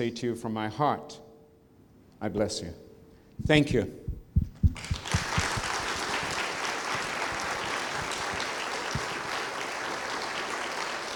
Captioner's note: applause